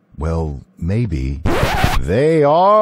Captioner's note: record scratch